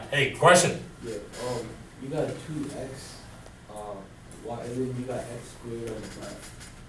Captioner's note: voiceover